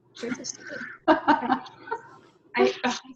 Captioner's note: laughs